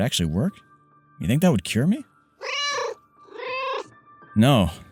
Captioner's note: meow